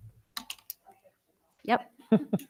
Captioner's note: speaking faintly